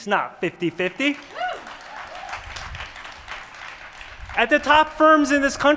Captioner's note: applause